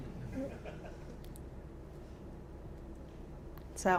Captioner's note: laughter